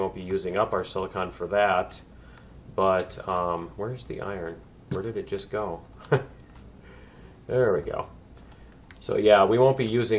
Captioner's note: laughs